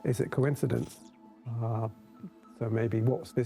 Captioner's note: light crackling